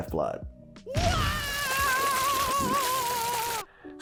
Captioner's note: Mario Screams